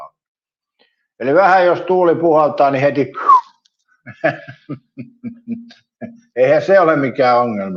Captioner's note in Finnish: naurua